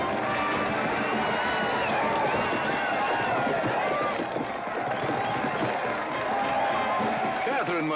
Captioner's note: band playing & crowd cheering; crowd cheering and hooves pounding